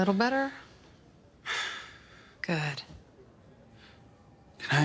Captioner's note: exhales slowly